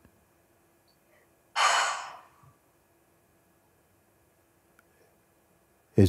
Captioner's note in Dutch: zucht